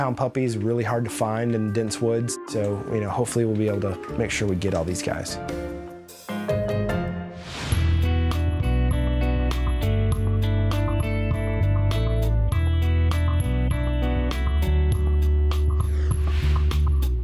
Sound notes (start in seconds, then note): 5.5 upbeat music; 7.3 label whooshes